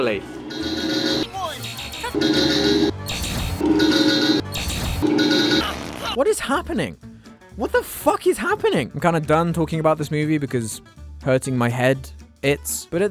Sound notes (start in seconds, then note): 5.6 flatulence